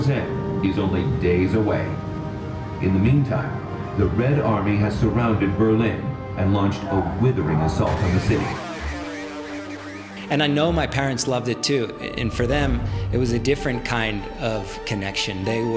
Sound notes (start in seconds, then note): 7.9 old radio chattering